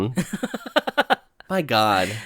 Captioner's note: laughs